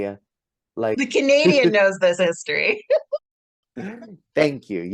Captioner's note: laughs